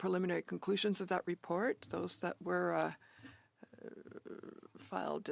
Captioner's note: speaking French